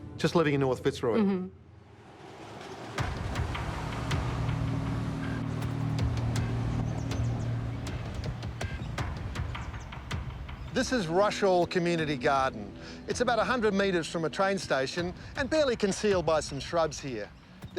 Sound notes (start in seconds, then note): 2.0 train engine revving; 4.8 dramatic music; 6.0 birds chirping